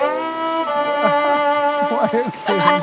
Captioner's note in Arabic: يضحك